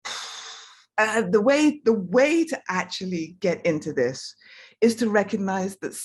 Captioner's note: sighs